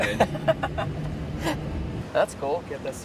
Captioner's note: laughs